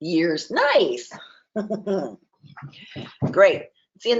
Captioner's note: chuckles